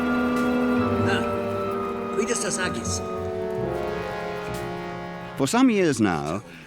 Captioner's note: men speaking foreign language